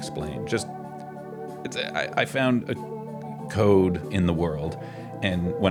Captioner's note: he stammers